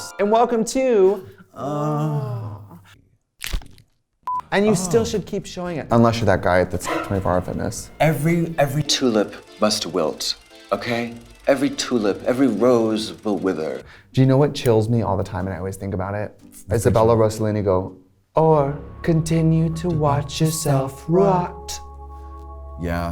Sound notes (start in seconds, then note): 0.0 majestic chimes; 3.3 bone cracks; 7.7 horror music